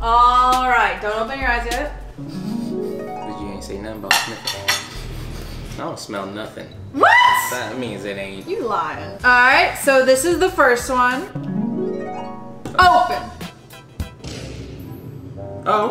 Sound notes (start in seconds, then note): 2.4 sniffing; 5.0 sniffing; 11.3 harp music; 13.5 upbeat music; 14.2 explosion